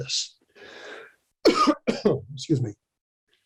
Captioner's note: coughs